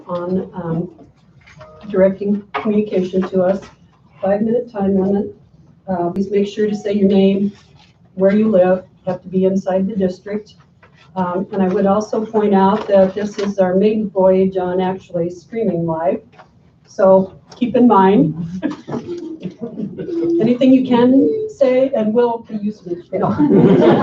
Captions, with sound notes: on directing communication to us. Five minute time limit. Please make sure to say your name, where you live, have to be inside the district. And I would also point out that this is our main voyage on actually streaming live, so keep in mind. (laughs) Anything you can say, and will be used against you.